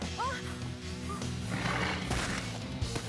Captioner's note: none